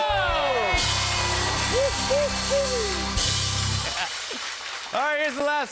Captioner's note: cheers and applause